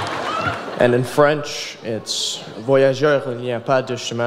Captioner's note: speaks in foreign language